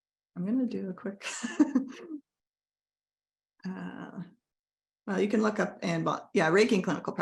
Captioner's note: laughs